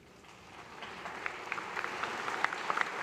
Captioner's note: applause